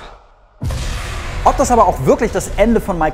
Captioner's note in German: schockender Sound